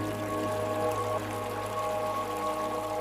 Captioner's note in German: Wasserplätschern